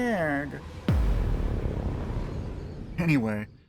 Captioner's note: cinematic boom